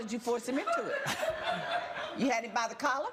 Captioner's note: audience laughs